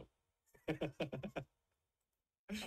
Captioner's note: laughts